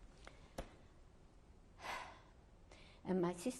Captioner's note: pauses for 3 seconds; sighs